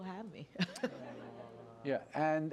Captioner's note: laughter